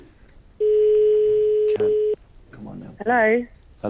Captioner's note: phone ringing